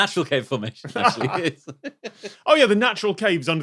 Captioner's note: giggle